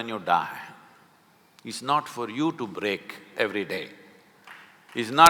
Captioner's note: applause